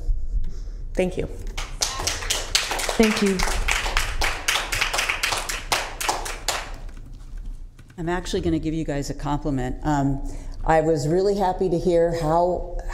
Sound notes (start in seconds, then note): 1.5 applause